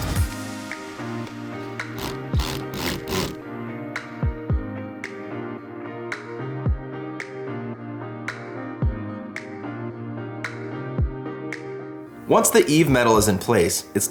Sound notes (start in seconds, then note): 1.6 drill machine drilling